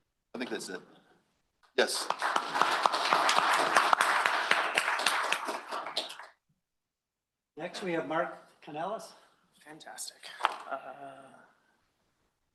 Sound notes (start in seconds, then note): 1.8 applause